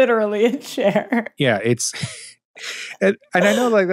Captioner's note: laughs